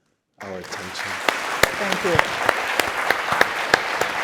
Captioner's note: audience applauding